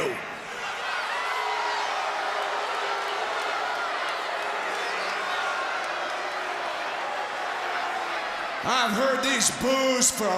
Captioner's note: crowd chatter